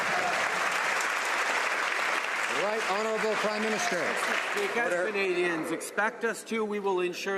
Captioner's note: some Applause